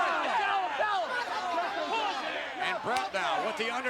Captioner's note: crowd chattering